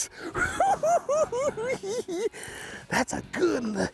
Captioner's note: cackling